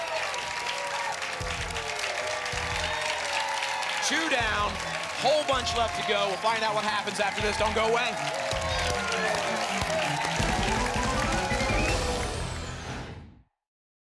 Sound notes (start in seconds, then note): 0.2 applause and cheering; 9.1 applause and cheering cont; 12.7 whoosh